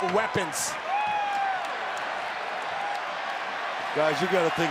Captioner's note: applause